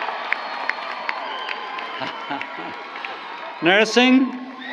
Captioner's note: applause